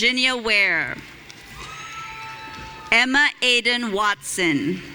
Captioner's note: audience cheering